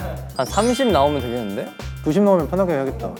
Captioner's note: encouraging